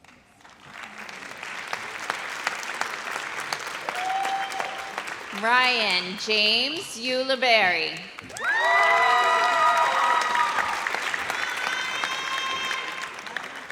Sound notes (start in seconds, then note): 2.1 audience applauds; 8.3 audience cheers